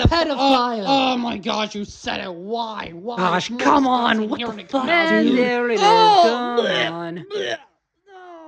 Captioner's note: everyone Groans